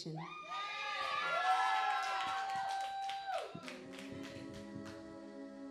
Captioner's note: audience clapping and cheering